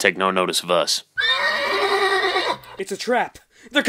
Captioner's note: distant Horse Whinny